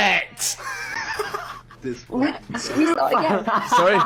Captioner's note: laughs